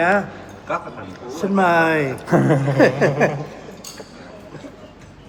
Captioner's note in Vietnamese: tiếng cười